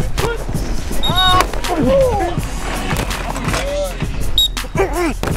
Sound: pads crunching; whistle blowing

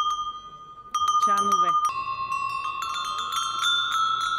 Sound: bulgarian bells

